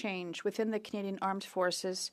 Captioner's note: speaking French